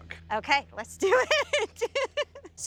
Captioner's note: laughing